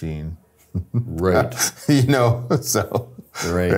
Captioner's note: laughs